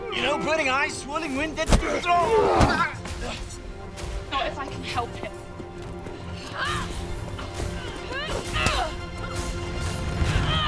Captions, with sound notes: - You know, burning eyes, swirling wind, dead stoopers- (Hunter groans) - Not if I can help it. (fighting grunts)